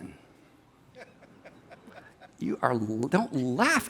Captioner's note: person laughs